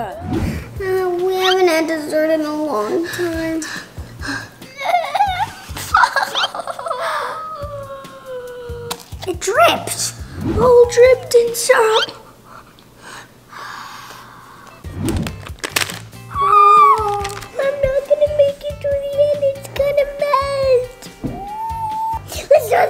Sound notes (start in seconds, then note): 4.8 crying; 13.4 sighs; 15.1 paper crinkling